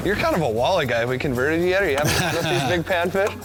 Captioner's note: laughter